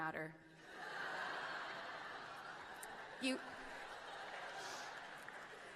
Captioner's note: laughing